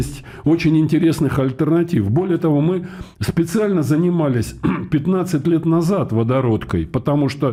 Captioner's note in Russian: откашливается